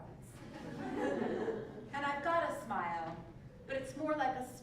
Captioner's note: laugh